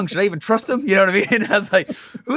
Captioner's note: laughs